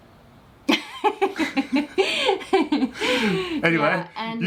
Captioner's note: laughing